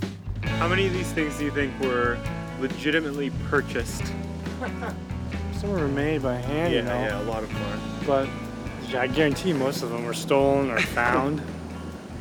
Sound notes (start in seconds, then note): 2.6 chuckling